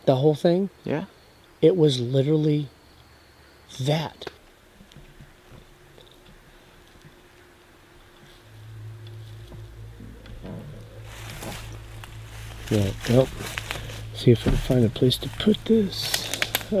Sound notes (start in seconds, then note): 10.6 leaves whooshing